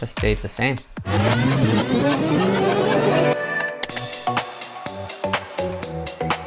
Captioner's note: exciting music; tape rewinding